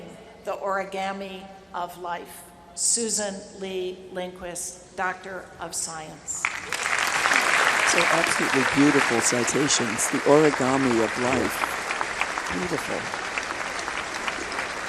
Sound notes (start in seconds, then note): 7.1 applause